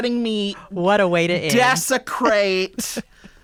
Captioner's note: laughter